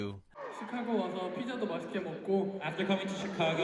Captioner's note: speaks Korean